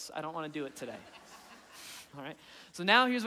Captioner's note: audience laughing